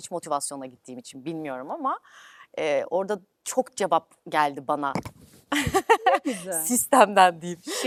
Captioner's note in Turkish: kahkaha